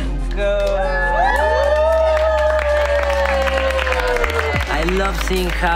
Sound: cheering & applause

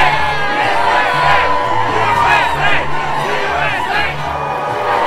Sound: cheers; chanting; cheers

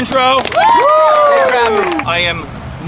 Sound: cheering, applause

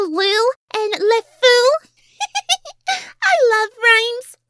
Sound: laughs

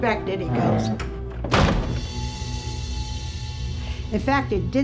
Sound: door slamming

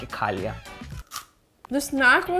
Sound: chip cracking

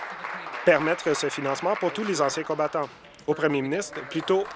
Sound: applause

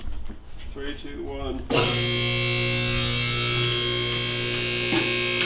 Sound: motor sounds

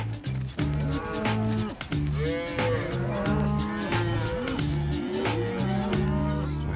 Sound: mooing

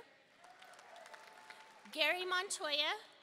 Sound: audience cheering and applauding

